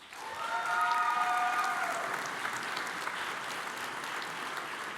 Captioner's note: audience applauds